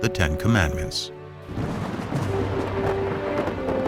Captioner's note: thunder